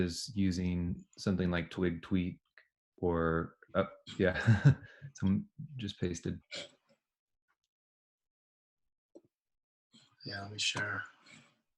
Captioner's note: chuckles